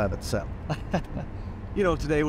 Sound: laughing

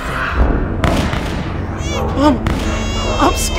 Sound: gunshots, Dogs barking, baby crying

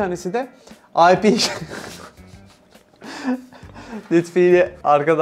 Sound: laughs

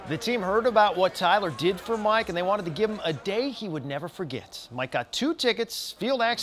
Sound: cheering/game noise

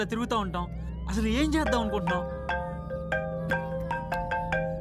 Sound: phone rings

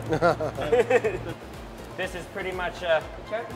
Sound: laughter

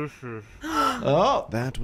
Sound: kids gasp

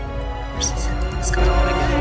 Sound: muttering

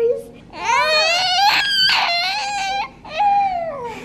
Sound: squealing

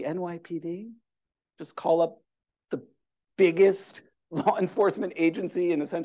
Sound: laughter

